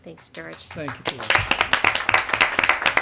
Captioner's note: applause